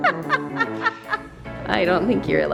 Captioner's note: laughing